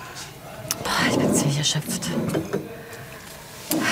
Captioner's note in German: Seufzen